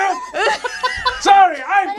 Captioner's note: all laugh